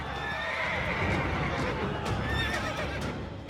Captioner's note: horses whinny